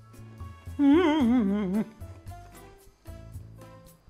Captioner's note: crying